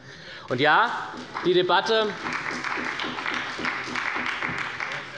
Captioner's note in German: Beifall bei Abgeordneten der SPD